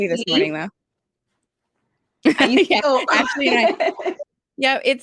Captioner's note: chatter